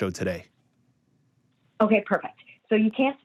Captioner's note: on phone